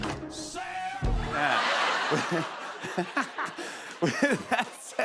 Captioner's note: laughs